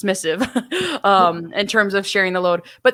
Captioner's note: chuckles